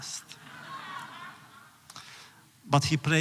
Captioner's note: laughter